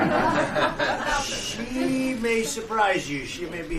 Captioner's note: laughter